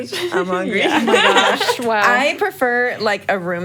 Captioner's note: group laugh